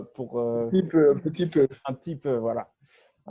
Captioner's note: in french